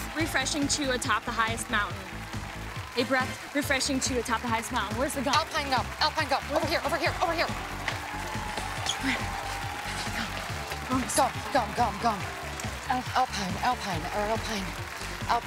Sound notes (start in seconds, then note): 8.3 cheers and applause; 9.0 both panting